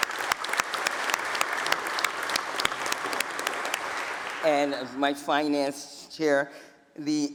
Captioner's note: applause